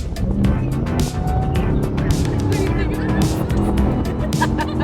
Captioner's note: car engine revving; woman laughing